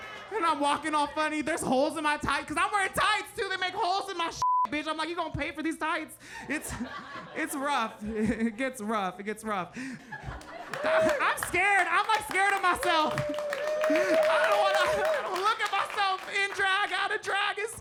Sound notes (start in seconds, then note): 4.4 beep